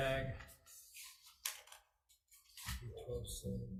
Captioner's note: papers shuffling